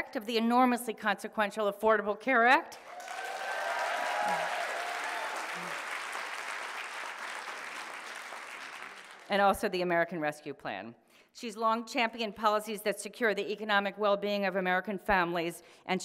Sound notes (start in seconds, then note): 2.8 audience applauding